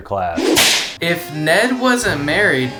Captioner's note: whip cracking